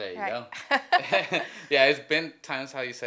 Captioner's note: both laugh